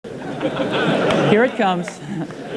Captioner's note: audience laughing